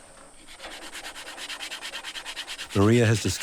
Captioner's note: grinding